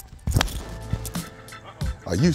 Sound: club hitting ball

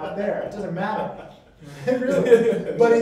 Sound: laughter

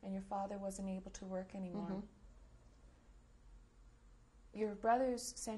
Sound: pauses for 3 seconds

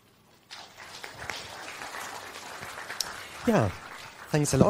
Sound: clapping

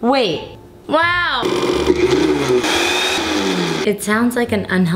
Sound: blender running

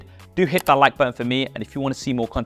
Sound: button clicks

